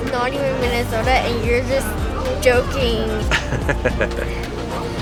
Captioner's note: dad laughs